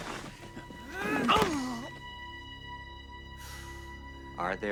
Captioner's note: Bobby grunting